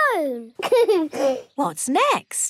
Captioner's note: giggles